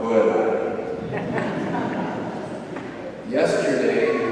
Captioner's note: audience laughs